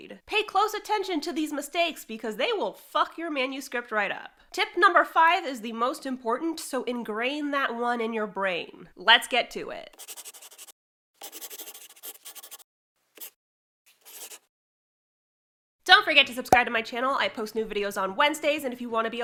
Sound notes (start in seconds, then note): 11.2 the sound of a pen scratching. LOGO